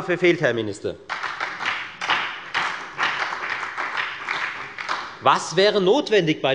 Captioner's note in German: Beifall bei der FDP und bei Abgeordneten der SPD